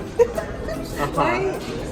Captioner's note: upbeat music; laughing